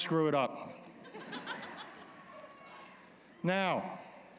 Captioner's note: laughter